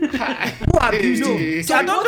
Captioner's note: laughing